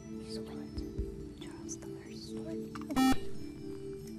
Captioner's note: whispering; buzzer